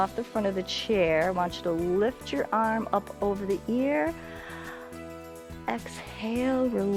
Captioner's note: inhales